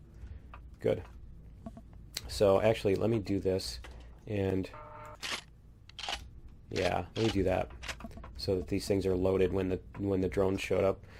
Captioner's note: reloading